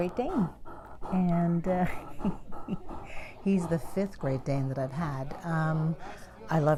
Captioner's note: chuckles